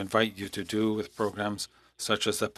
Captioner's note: speaking French